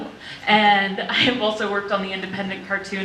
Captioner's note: none